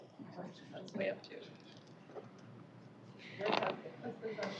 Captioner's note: indistinct chatter